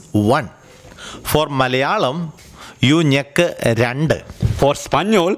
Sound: in Malayalam

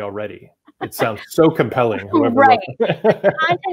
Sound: chuckles

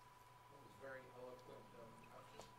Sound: voiceover

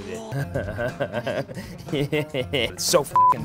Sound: laughs

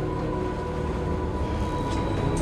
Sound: sighs

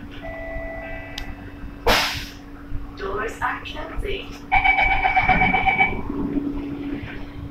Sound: buzzer sounds

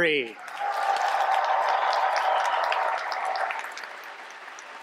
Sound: cheers, applause

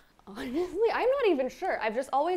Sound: chuckles

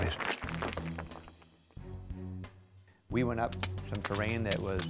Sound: rocks clattering

